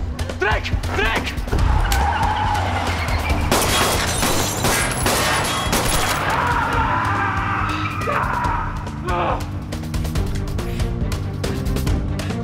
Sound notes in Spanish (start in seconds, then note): 1.3 Chirrido de llantas; 3.3 Disparos; 6.2 Gritos